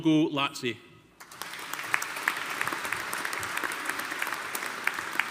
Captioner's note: audience applauding